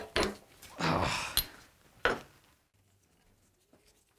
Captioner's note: groans